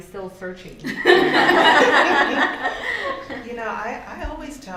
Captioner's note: laughter